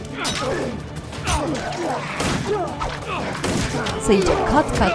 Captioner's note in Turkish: Silah sesleri